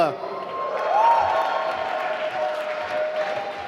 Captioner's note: applause